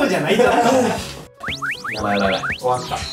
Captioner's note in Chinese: 偷笑